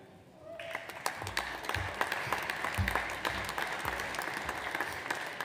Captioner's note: audience applauds